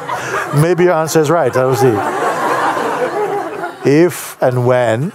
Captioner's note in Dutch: gelach